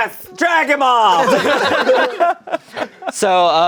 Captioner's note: everyone laughing